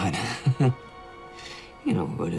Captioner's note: chuckles